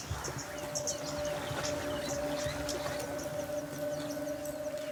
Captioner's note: birds chirping